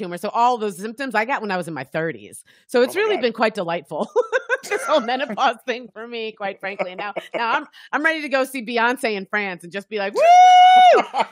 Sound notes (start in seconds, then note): 4.6 laughing